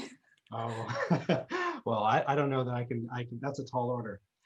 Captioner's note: laughs